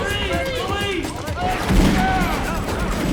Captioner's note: gunshot